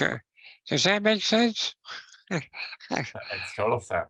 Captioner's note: chuckles